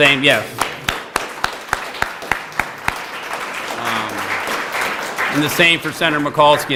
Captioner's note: applause